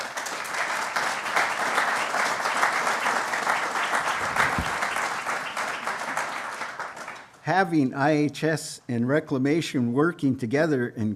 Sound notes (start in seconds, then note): 0.0 applause